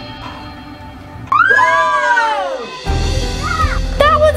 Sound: intense music; cheering

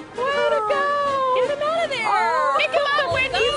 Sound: yelling

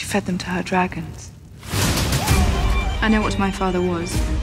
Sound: screams

